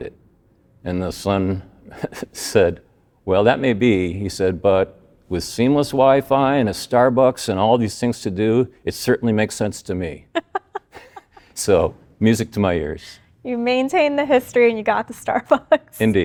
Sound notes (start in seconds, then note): 10.3 both laughing